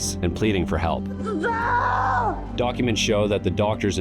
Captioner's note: screaming